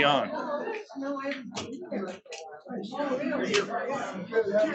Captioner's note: attendees chattering